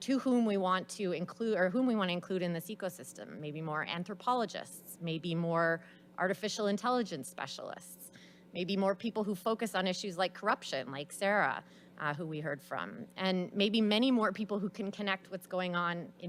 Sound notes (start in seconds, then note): none